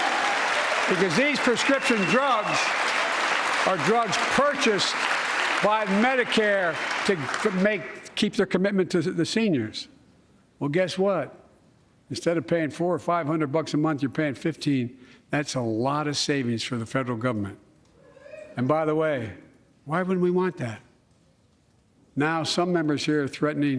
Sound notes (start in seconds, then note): 4.8 applause